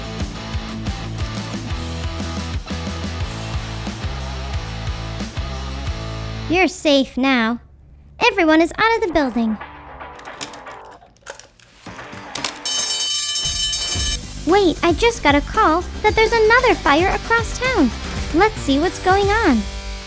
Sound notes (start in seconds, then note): 0.0 upbeat music; 8.9 upbeat music; 11.9 phone ringing; 13.4 upbeat music